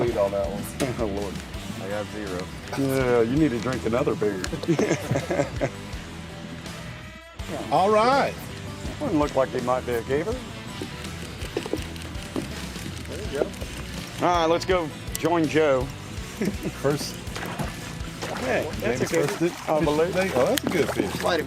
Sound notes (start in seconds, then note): 4.4 men laughing